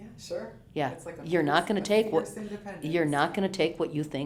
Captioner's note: pat